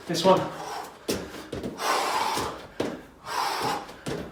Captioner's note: exhales sharply